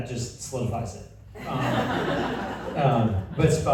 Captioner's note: laughter